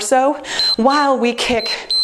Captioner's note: timer beeps